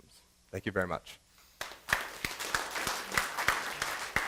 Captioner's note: applause